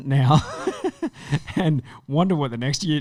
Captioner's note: laughing